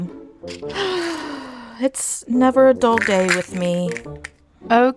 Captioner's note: sigh